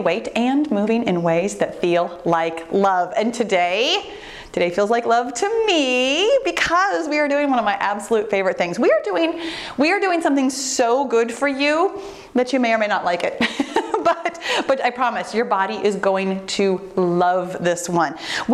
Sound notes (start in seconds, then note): 13.4 laughs